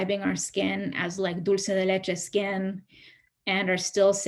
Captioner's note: speaks in Spanish